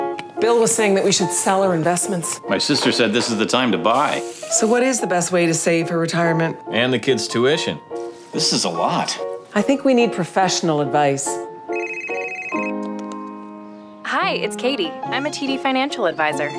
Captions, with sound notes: Bill was saying that we should sell our investments. My sister said this is the time to buy. So what is the best way to save for retirement? And the kids' tuition. This is a lot. I think we need professional advice. (phone ringing) Hi! It's Katie, I' m a TD financial advisor.